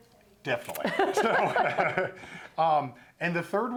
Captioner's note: both laughing